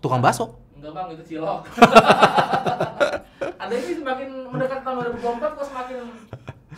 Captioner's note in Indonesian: ketawa